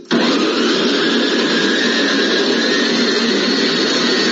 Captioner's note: blender sound